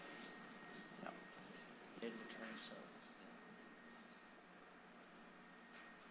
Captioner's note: chatter